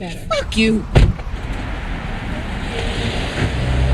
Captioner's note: door slamming; engine revving